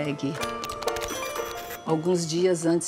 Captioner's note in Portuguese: digitação